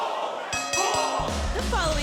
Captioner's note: bell ringing